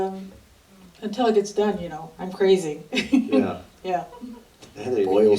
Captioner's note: laughs; laughter